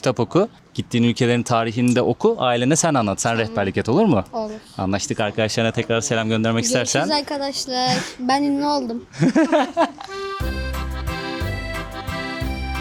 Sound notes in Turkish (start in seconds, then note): 9.1 kahkaha